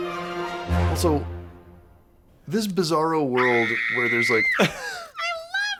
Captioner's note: shrieks